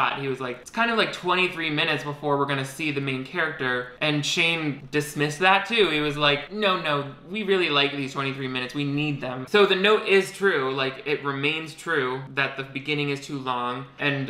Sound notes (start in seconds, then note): none